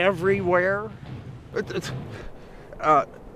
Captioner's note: stuttering